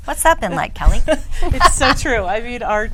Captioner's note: woman laughs